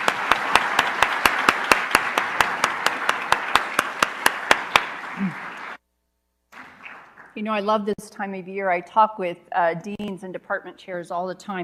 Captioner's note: applause